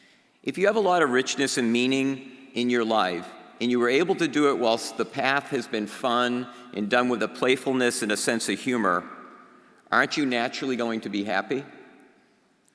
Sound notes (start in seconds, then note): none